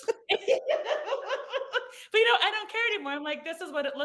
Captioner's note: participants laugh